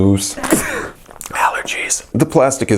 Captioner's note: sneeze